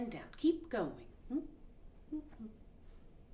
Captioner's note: humming